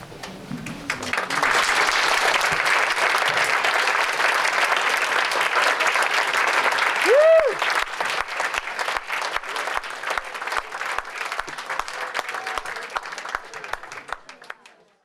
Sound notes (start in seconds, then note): 0.6 applause